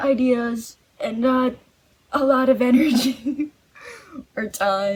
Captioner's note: laughs